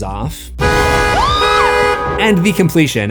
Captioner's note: screams